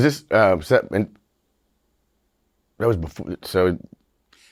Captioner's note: stammering